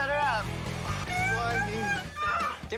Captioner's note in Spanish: llora